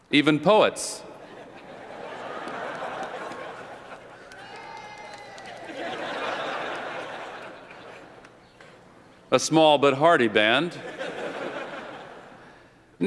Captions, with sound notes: Even poets. [LAUGHTER] [CHEERS] [LAUGHTER] A small but hardy band.